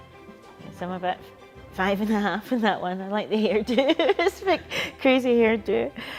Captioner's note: laughs